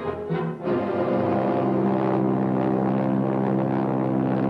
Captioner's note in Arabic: هدير محرك الطائرة